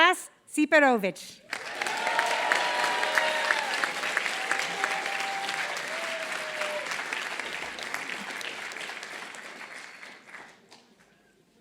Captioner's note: applause